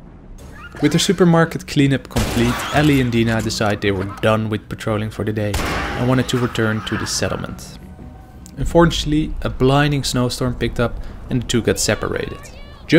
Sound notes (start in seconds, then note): 5.5 rifle shots